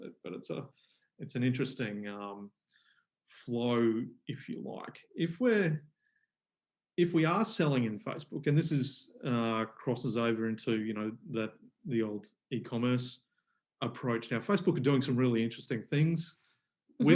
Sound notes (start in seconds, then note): none